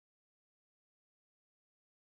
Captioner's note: none